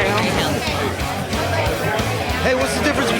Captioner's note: chatter